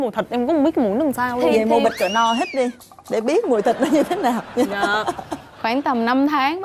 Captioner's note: laughing